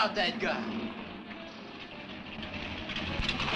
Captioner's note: engine rumbling; lively music plays on radio